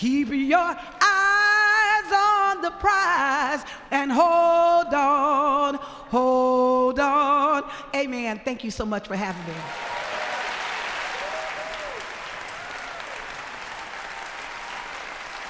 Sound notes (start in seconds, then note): 9.2 applause